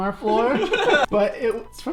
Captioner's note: laughs